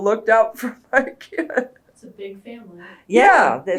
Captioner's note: laughs